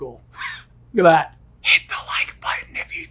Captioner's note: laughing